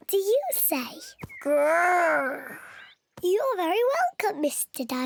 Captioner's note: giggles and oinks